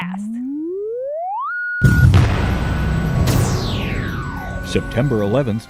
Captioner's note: sound Effects